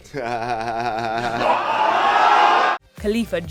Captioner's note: laughing